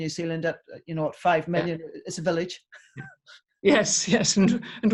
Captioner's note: chuckles